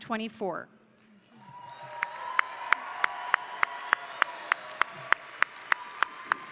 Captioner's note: crowd cheering; crowd applauding